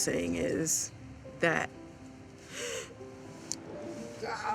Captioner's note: gasps